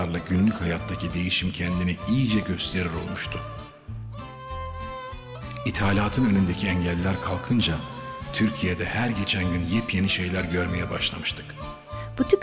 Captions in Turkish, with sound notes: ...günlük hayattaki değişiklik kendini iyice gösterir olmuştu. (Ahmet dış ses) İthalatın önündeki engeller kalkınca... ...Türkiye'de her geçen gün yepyeni şeyler görmeye başlamıştık.